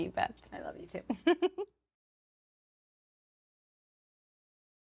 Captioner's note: giggling